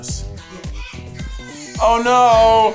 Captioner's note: baby crying